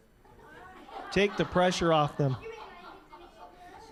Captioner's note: all laughing